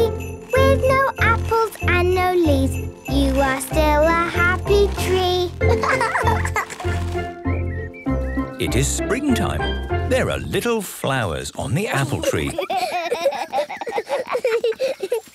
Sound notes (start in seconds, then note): 5.6 laughing; 7.4 birdsong; 11.9 laughter